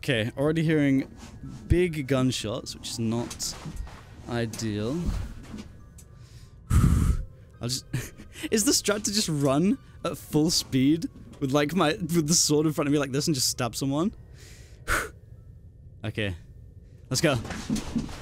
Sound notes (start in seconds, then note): 6.2 exhale; 14.3 exhale of preparation